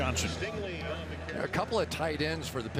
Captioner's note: pa announcement